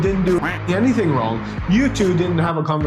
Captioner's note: duck quacking